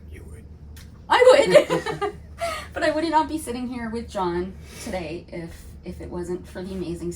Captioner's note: laughter